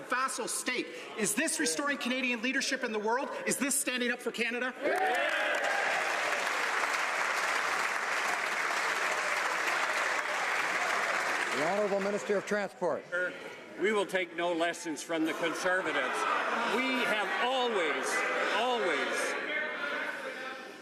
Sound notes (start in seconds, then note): 9.9 applause